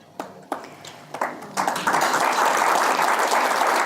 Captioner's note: sustained audience applause